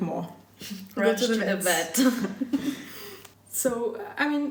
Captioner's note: laughter